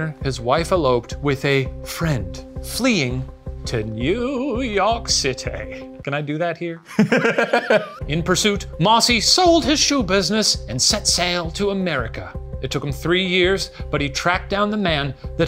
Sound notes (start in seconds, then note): 6.8 laughing